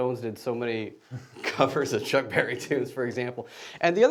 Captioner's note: laughing